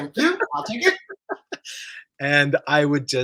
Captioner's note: laughs